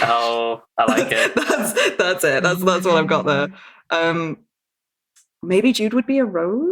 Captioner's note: laughs